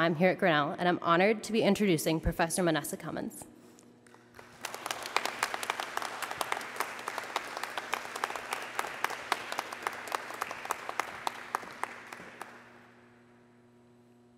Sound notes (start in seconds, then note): 5.6 applause